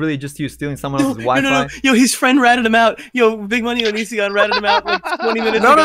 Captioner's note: laughs